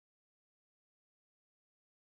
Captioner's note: none